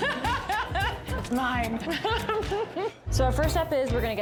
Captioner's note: laughs